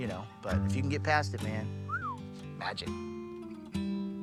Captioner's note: whistles